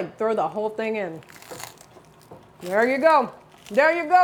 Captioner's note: bruschetta crunches